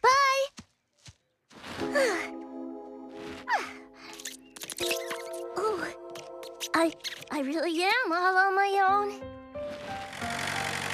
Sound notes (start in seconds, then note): 4.0 squirrels Squeak